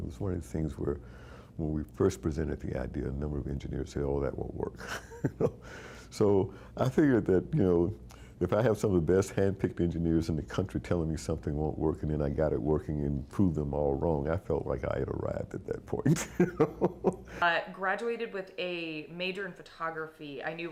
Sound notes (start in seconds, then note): 4.7 chuckling; 16.0 laughing